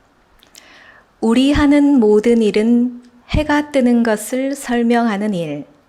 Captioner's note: reciting in Korean language